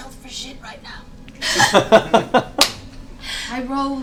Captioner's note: laughter